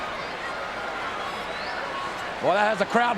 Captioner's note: crowd chattering